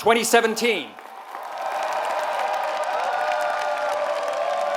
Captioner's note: applause